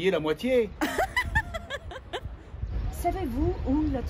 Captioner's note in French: Girl laughs